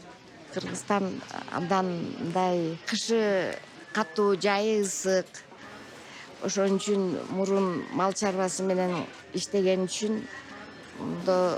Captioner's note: speaking Kyrgyz